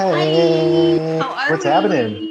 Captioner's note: audience cheers and applauds